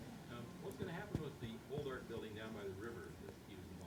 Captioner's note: voiceover